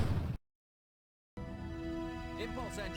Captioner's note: explosion